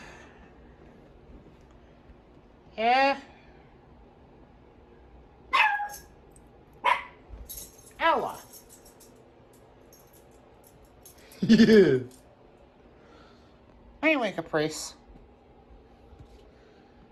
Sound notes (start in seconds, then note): 3.6 Ella barks at the door; 11.4 Ella laughs